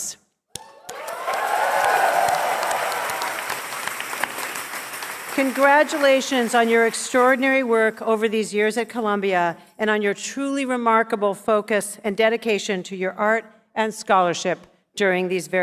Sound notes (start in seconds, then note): 7.4 cheers and applause